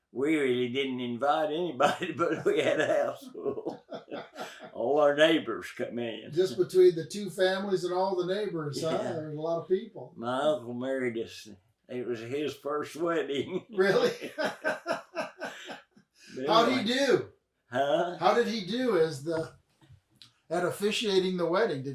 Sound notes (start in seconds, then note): 3.7 both laugh; 12.9 laughs